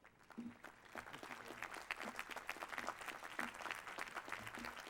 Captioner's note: applause